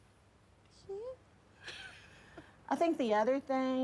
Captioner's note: laughs